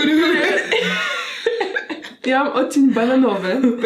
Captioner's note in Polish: śmiech